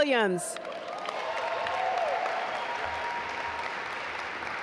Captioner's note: audience applaud